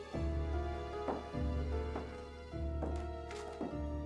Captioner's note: boots tapping